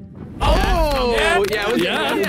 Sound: players clap

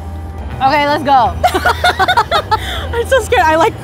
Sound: laughing

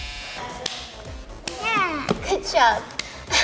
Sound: hands high fiving

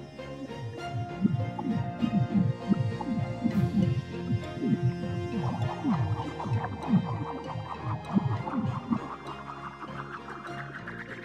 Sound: goo gurgling

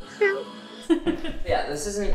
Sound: laughing

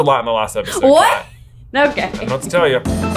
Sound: laughs

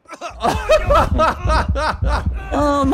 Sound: laughs

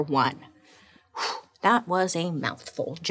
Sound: sighing

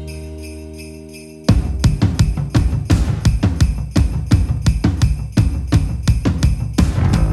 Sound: sleigh bells; soft rock music

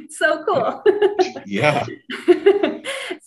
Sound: laughs

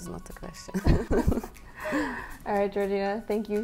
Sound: laughs

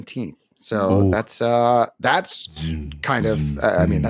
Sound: mimics light saber noises

